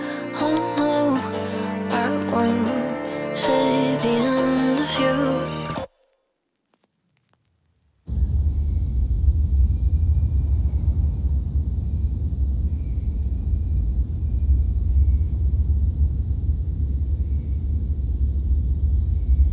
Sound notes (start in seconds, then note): 8.2 insects buzzing, birds chirping